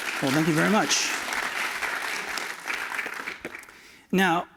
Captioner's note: applause